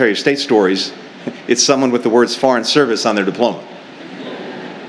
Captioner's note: laughter